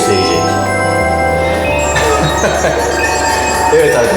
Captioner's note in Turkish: gülüşme